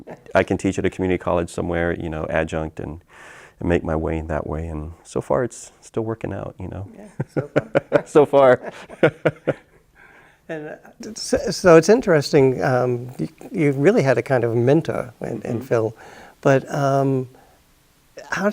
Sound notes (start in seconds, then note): 7.1 both laugh